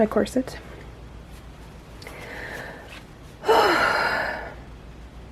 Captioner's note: another happy sigh